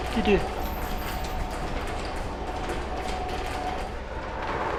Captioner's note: gate whirring